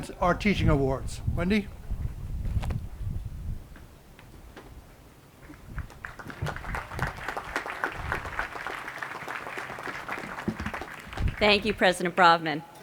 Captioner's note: applause